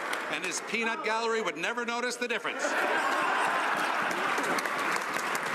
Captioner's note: some Applause